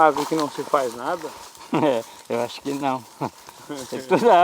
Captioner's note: laughs